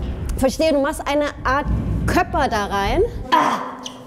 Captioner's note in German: Ächzen